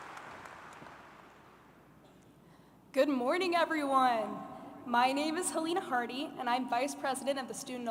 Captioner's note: applause